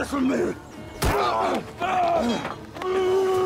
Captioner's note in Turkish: Tekme sesi